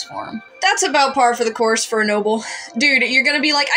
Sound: sigh

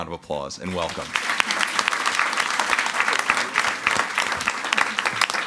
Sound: audience applauding

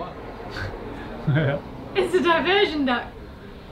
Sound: laughing

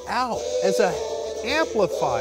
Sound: volume increases

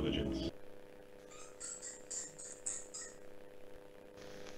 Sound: squeaks from the recording

